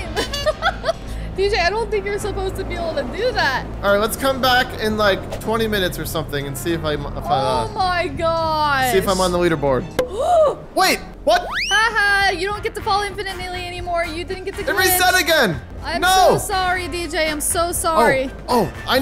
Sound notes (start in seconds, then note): 0.0 laughs; 10.0 gasps